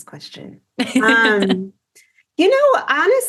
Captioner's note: laughs